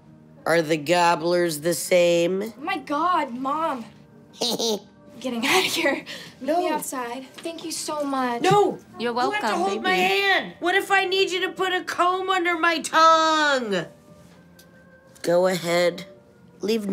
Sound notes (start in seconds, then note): 4.4 snickers